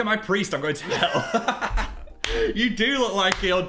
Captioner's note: laughs